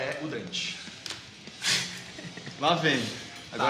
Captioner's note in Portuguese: Risos